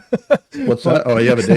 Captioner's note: laughs